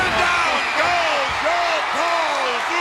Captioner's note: audience cheers